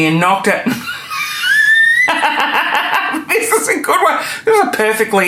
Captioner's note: laughing